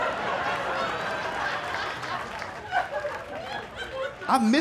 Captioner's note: laughter